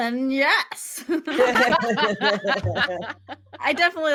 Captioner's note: all laughing